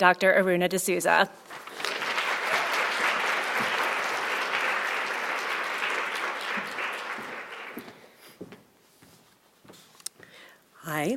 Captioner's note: applause